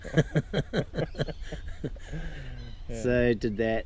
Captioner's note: laughs